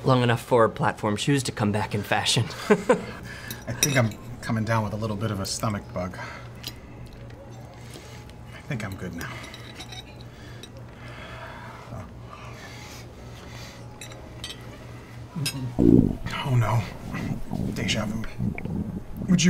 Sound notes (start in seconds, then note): 17.0 stomach gurgling